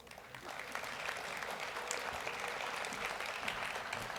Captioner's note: audience applauds